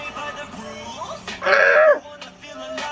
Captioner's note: screams